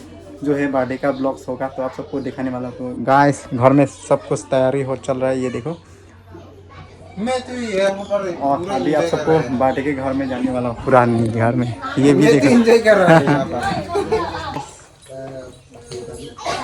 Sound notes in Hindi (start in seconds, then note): 12.4 हंसी